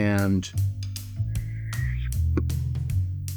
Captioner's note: whistles menacingly